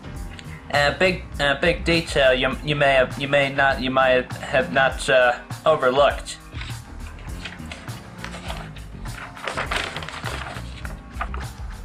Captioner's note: stuttering